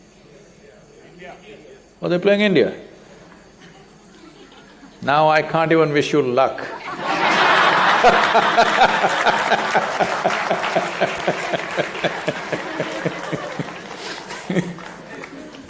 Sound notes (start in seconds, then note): 3.6 laughter; 8.7 applause